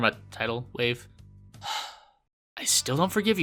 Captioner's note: sigh